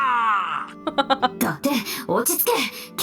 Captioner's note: chuckles